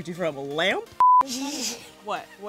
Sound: snarls

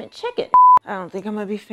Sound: beep

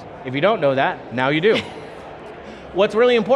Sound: laughing

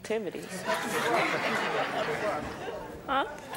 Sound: audience laughing

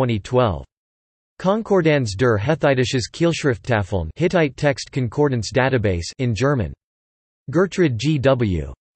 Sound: in German

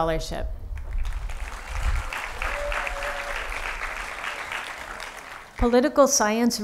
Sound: applause

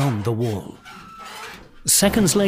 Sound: metal door creaking

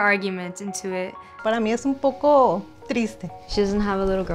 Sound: speaks in foreign language

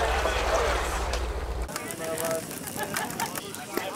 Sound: laughing

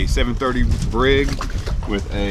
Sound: water lapping

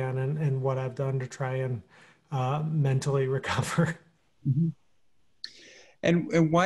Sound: chuckling

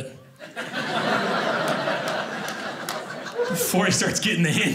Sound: audience laughing

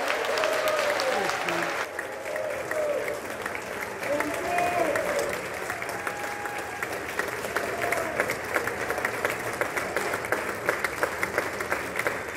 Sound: applause

